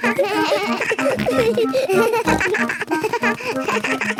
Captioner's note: giggles; snorts, bleating